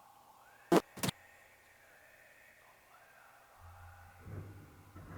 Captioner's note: static crackling